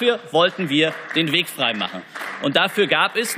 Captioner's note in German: Beifall